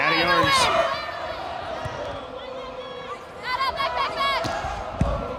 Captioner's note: players yelling